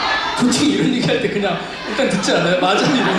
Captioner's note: laughs